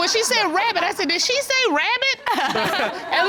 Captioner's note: chuckles